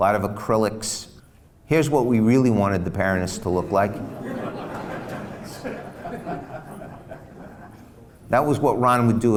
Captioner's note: laughs